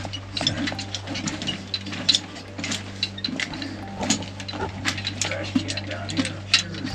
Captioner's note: equipment rattling; footsteps crunching